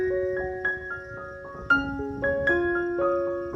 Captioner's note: woods and greenery and blue skies and crickets chirping